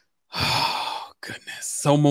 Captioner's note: gasps